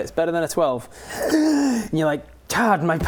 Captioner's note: deep exurtive inhale